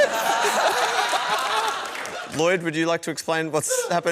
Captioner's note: laughter